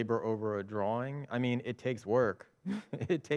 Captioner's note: chuckles